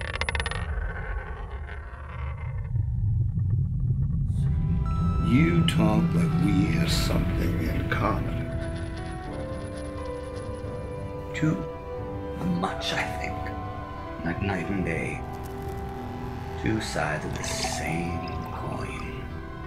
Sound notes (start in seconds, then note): 0.0 coin spinning; 0.2 ambient rumbling; 7.9 coin buzzing - spiraling down